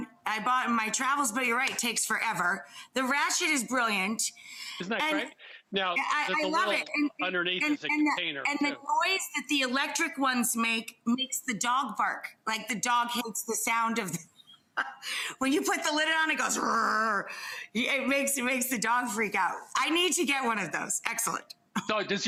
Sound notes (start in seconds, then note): 14.8 laughs; 16.7 imitates grinder whirring